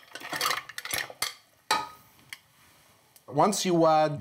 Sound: clattering

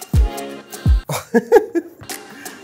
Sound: laughs

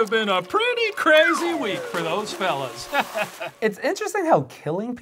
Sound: chuckles

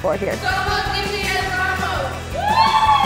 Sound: cheers

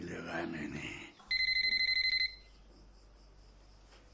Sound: phone ringing

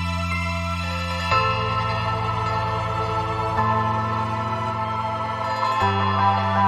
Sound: Aiso flees. An ominous bell rings in the distance

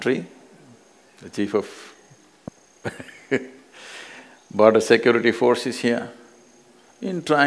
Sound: laughs

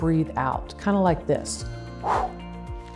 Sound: air whooshing

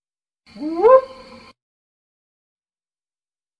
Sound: howl

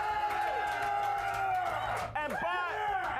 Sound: audience cheering

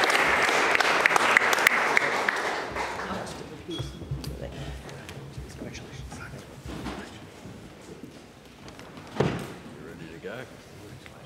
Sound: applause

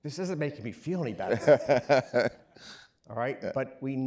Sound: laughing

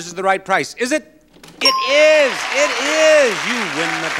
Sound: bell dings

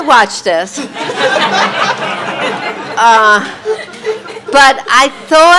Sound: audience laughing

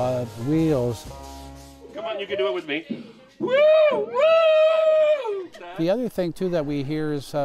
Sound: making train whistle sounds

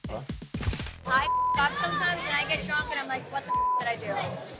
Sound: beep; beep

